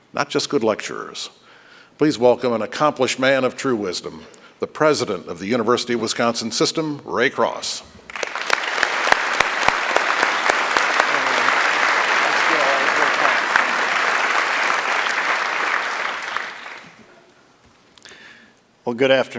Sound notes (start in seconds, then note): 13.5 applause